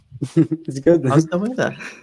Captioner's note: laughs